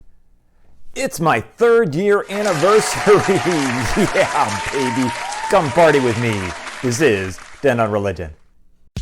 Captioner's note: applause